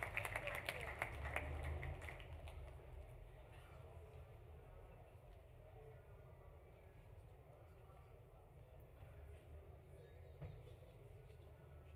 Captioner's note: applause